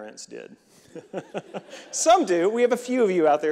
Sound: reverend laughing

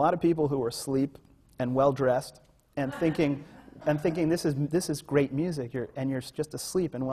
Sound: laughter

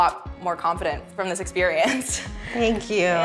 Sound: chuckles

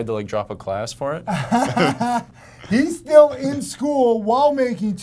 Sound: laughs

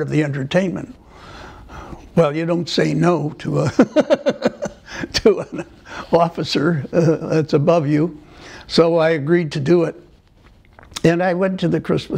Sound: laughter

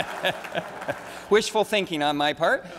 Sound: laughter

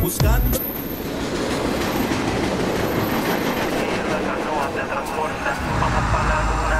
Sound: train rumbles

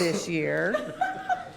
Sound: laughter

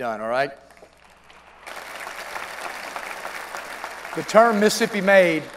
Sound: applause

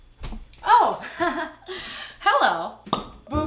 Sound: laughs

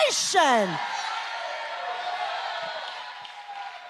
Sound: cheering

